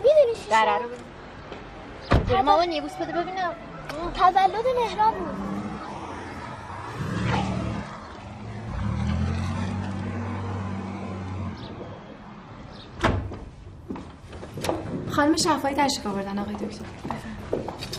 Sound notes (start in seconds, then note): 2.1 car door closing; 7.2 revving car engine; 12.9 door opening